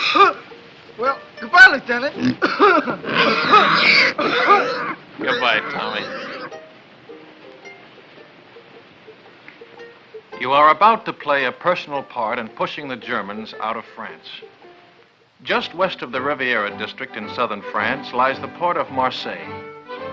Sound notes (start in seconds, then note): 2.2 coughs; 3.0 grunts, squeals